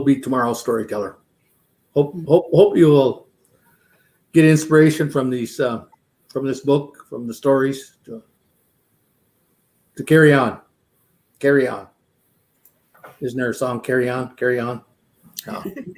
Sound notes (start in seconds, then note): 15.5 laughter